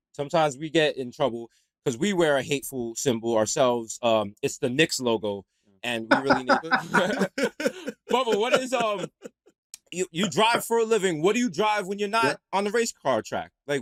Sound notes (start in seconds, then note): 6.1 laughter